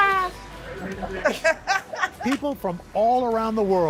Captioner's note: laughter